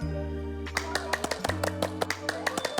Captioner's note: suddenly claps?